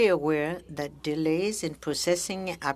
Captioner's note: speaking french